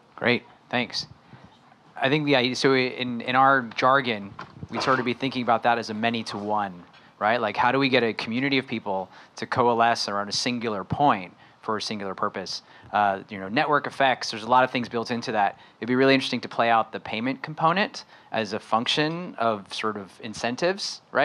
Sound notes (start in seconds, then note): none